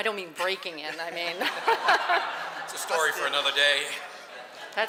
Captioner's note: laughter